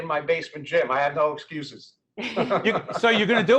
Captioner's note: laughing